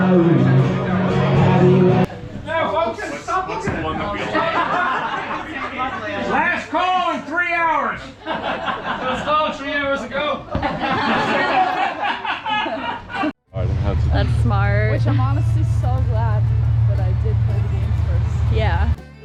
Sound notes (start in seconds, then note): 7.9 the room laughs; 10.7 room laughs more; 13.6 background chat